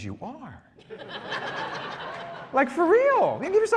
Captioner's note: laughter